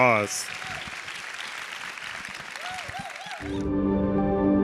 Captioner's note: audience cheering; calm music